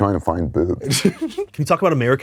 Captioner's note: laughs